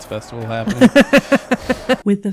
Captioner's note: merry Laughs